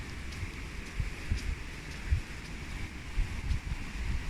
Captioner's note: stream splashing